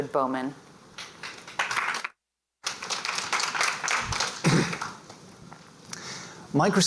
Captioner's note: applause